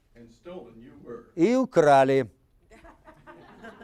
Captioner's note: speaking Russian; audience laughing